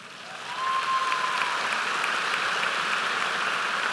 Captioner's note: applause